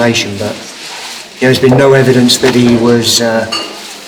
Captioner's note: squeaks